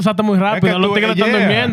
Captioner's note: speaking Spanish